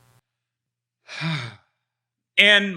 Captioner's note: sighs